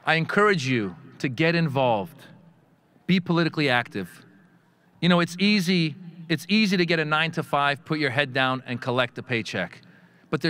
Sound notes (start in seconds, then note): none